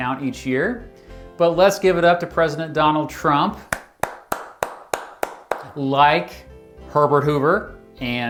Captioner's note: clap hands